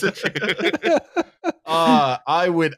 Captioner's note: laughter